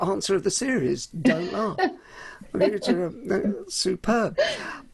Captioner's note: laughs